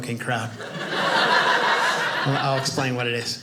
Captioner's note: audience laughing